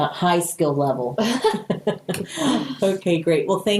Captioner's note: laughing